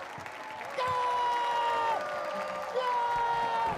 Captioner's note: applause; screams